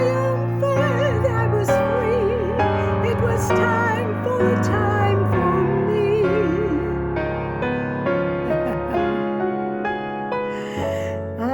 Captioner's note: laughs